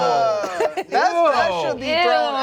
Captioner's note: laughs